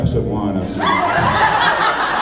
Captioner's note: laughs